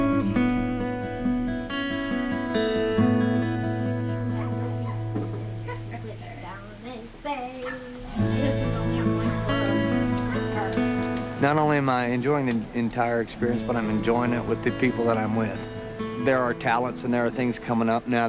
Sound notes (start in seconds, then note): 4.4 chatting quietly